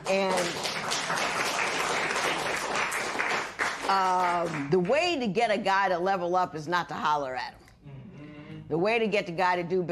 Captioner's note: applause